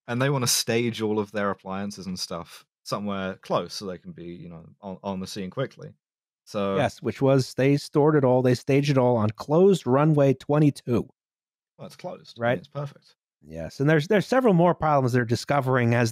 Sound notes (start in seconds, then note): none